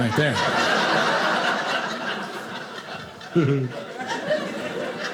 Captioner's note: audience laughing